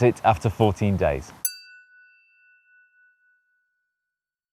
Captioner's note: chiming tone